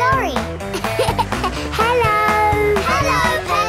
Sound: laughing

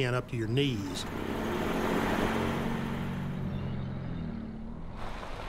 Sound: tanks rumbling

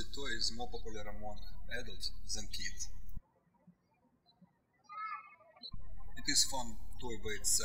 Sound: chuckling

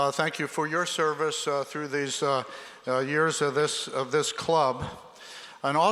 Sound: none

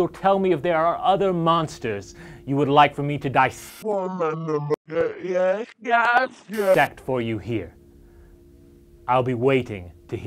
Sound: bad VHS sound

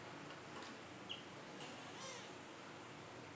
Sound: otter crying

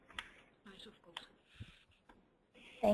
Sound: silence

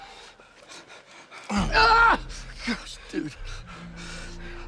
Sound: screams

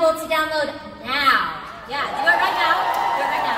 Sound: audience cheers

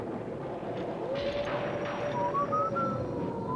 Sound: wolf howling; whistling

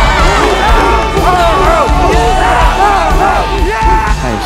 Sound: chanting

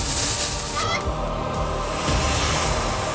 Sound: chicken clucking; somber music

